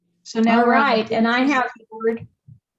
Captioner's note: distorted audio